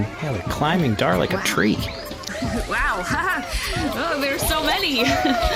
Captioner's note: nervous laughs